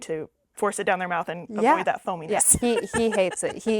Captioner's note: laughing